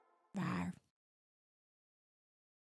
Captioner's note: meek roar